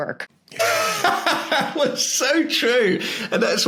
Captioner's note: laughs